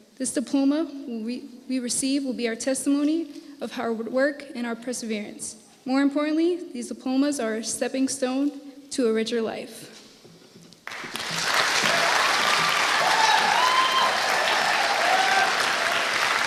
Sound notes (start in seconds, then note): 10.8 audience applauding and cheering